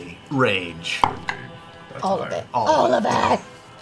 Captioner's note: growling